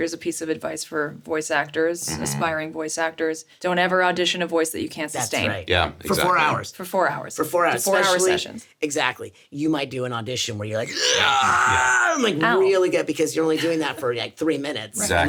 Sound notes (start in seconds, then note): 13.5 Sarah laughs